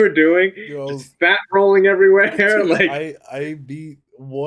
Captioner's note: laughs